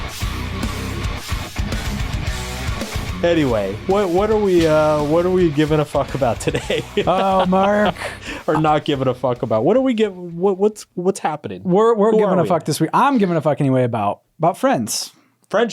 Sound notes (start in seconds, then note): 0.2 upbeat music; 6.4 laughs